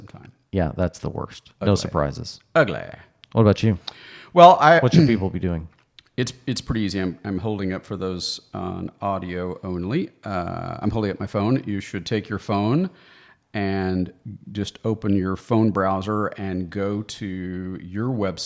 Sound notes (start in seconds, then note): 4.9 clears throat